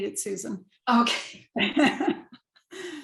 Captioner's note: laughs